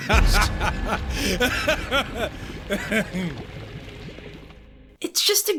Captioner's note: laughter